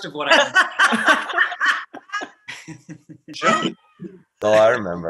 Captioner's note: group laughing